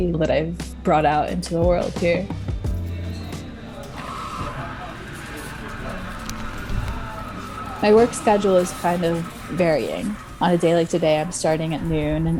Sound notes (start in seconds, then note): 3.5 espresso hisses